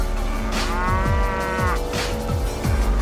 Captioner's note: moo